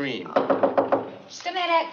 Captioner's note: knocking